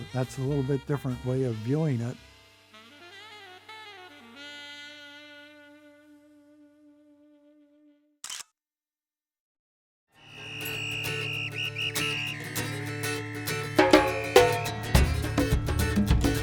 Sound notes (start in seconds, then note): 4.5 soft jazz music fades; 8.2 camera shutter clicks